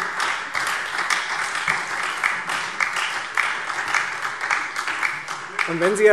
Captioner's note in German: Beifall Freie Demokraten und vereinzelt SPD